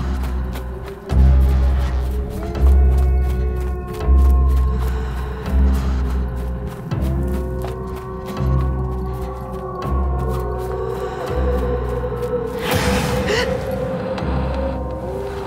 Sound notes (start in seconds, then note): 3.9 wolves howling; 13.7 dramatic suspense music